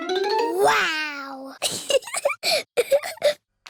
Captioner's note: giggles